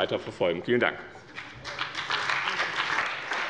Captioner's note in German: Beifall bei dem BÜNDNIS 90/DIE GRÜNEN und der CDU